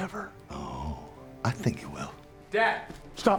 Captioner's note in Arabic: لهجة اسكتلندية